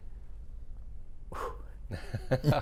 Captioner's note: laughing